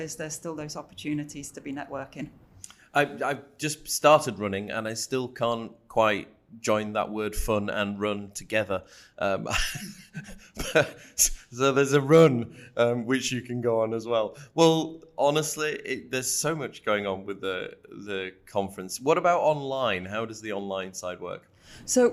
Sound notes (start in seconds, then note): 10.5 laughing